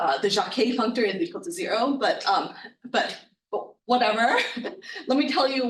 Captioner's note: chuckling